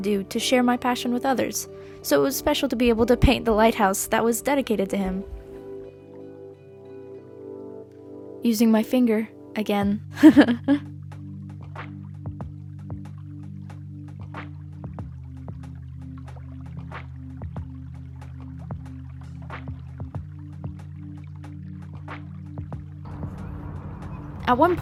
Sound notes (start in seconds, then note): 17.0 laughs